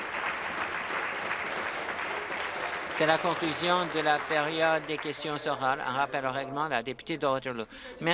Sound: applause

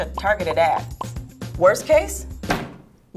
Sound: graphics popping

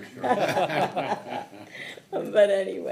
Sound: everyone laughing

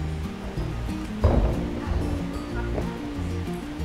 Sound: footsteps thudding; bright music

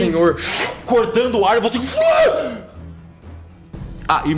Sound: screaming

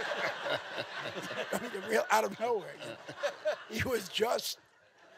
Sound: audience laughing

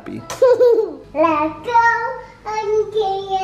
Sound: laughs

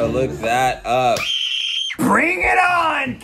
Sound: screaming

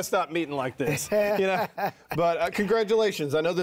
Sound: laughing

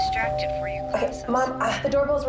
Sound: doorbell rings

